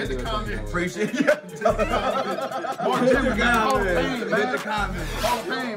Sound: laugh

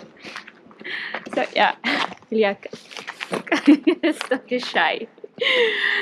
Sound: laughing

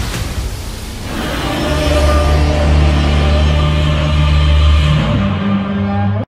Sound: grumble grumble

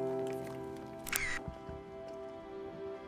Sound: camera shot

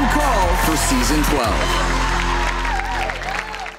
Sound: audience cheering

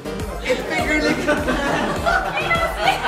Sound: laughts

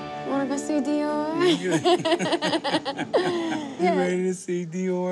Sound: laughter

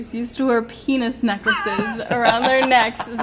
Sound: laughs

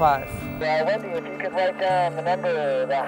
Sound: via 2-way radio

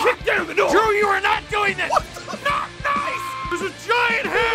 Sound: Harry potter screaming; screaming

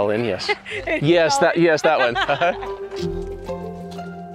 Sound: laughs; gentle music

